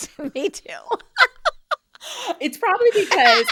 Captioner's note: laughing